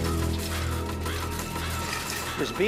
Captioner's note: bird cawing